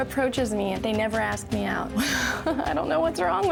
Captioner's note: chuckling